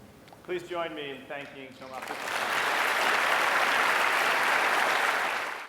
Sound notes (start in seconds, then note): 1.8 applause